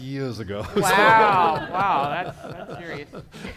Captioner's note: laughter